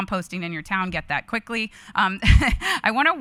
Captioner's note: chuckles